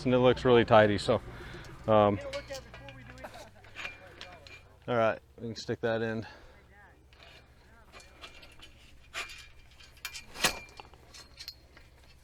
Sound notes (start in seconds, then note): 2.4 indistinct background chatter; 7.0 metals clank